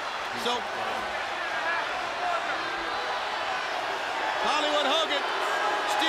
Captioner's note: crowd chatter